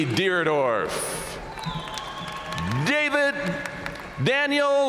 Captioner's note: audience cheering and applauding